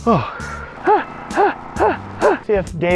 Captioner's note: camera man puffing; panting